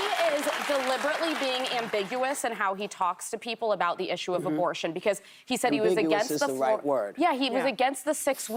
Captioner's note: applause